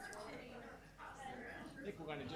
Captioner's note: faint voices chattering